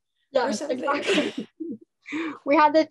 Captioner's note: laughing